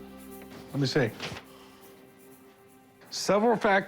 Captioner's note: paper rustling